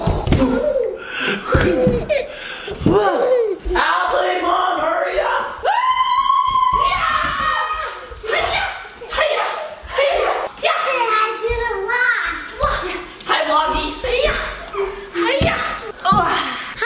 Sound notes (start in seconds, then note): 1.5 baby laughs; 5.9 squealing